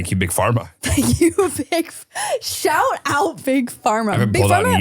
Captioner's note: laughs